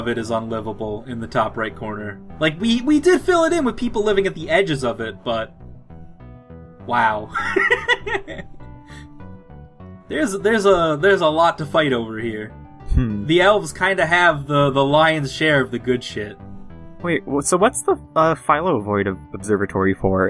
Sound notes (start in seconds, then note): 7.4 laughs